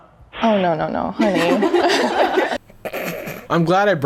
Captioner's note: girls laughing; chuckles